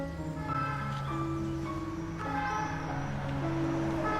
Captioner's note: siren blaring